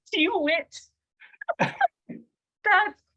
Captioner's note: laughs